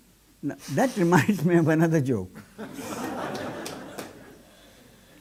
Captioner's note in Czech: smích